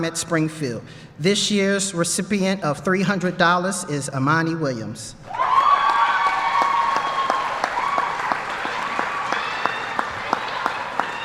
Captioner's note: applause